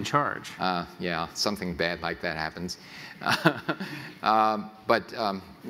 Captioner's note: laughs